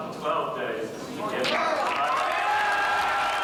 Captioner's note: cheers